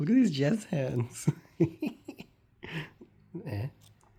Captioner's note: more giggling